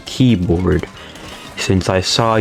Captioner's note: inhales Oxygen